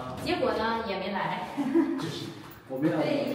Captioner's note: have a hearty laugh